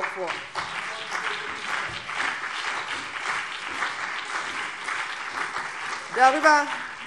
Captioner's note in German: Beifall BÜNDNIS 90/DIE GRÜNEN und CDU